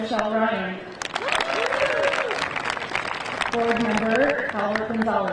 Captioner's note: crowd applauding; crowd cheering